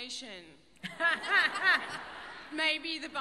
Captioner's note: laughter